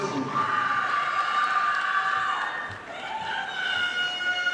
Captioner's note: audience applauding